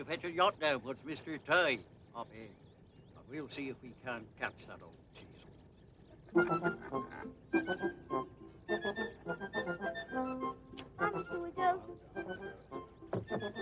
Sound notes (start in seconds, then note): 6.4 Jim laughs; 7.5 upbeat music